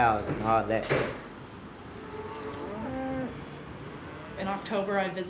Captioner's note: lowing